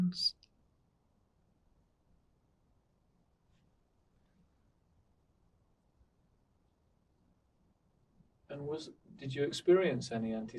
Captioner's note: pauses 8 seconds